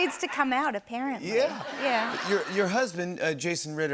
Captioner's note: laughter